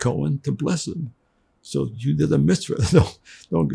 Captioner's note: laughing